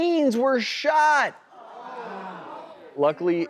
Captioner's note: audience gasps